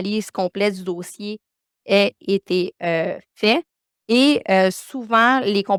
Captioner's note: continues speaking French